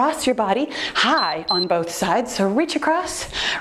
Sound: timer beeps

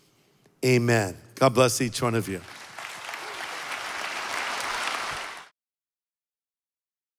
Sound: congregation applauding

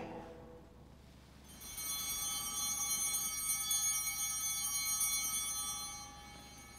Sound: bell ringing

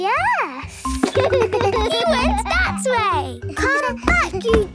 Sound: giggles

